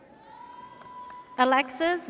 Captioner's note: audience cheers